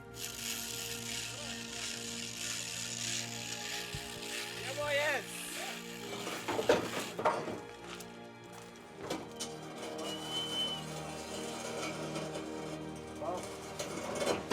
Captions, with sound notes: (chain clicking) - Yeah boy, yes! (metal rattling) (truck gate scratching)